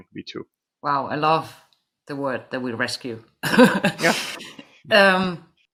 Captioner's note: laughs